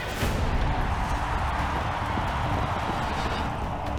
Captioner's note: crowd cheering